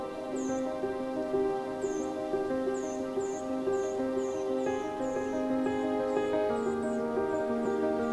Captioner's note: birds chirping; classical music